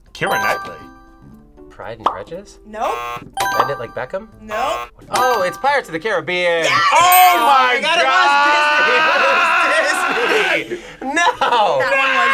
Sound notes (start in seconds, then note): 0.9 buzzer rings; 2.8 buzzer; 2.8 buzzer rings; 4.4 buzzer